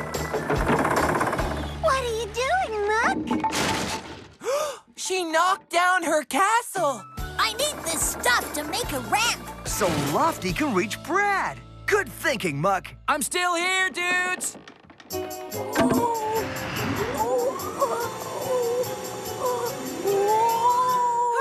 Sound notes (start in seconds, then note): 3.5 distant Crash!; 4.4 gasp!; 15.0 lofty Grunting